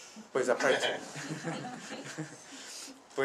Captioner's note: laughs